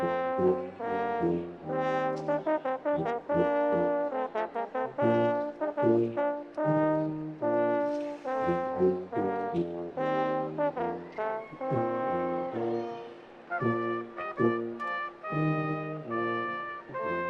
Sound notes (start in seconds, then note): 10.9 attendees cheering; 14.4 classical music